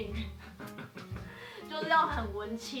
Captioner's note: laugh